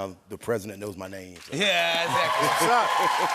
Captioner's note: cheers and applause